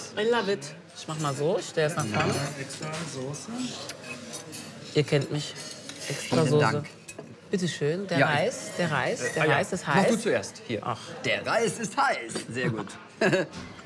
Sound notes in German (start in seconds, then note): 3.7 Restaurantkulisse; 13.2 Er lacht